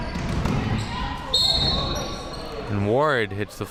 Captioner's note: whistle chirping